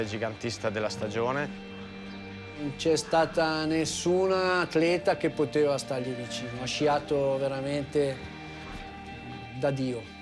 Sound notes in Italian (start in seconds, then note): 2.7 parla in italiano